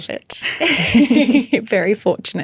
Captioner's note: all laughing